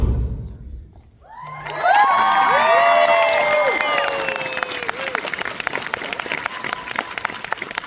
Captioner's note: audience Applause